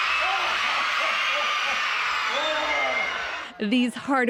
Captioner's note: cheering